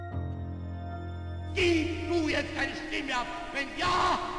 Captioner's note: hitler speaking